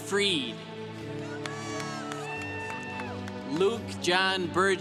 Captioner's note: congregation cheering